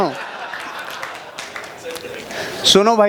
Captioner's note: rounds of Applause